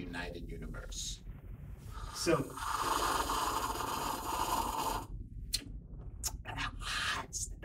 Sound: loud sipping noise

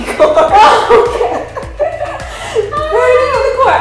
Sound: both laughing

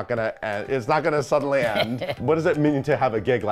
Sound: laughs

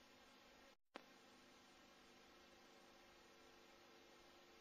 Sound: videocassette static continuing

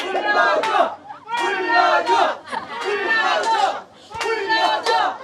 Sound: shout

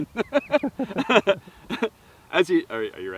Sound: laughter

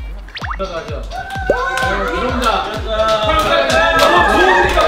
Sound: Everyong cheering at the news of Seori's new part-time job

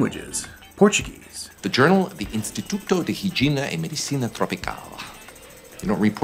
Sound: Portuguese

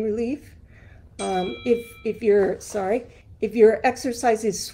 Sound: bell dinging

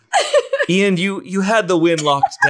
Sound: laughs

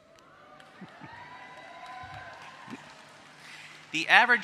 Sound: applause

